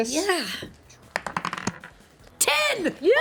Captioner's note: rolls dice